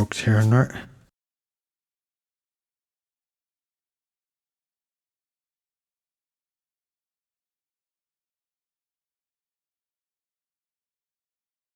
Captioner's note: silence